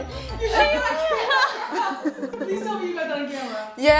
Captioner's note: everyone laughing